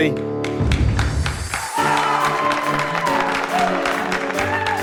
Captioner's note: cheers and applause